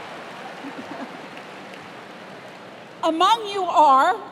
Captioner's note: cheers and applause